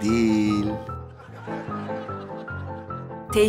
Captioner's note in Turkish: Gülme efekti